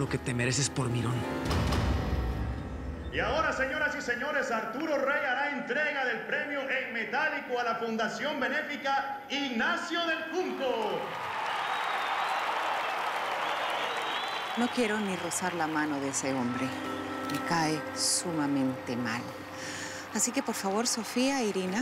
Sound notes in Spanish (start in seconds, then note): 10.4 aplausos; 12.8 aclamaciones